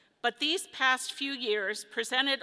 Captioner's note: none